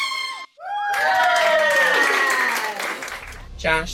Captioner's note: cheering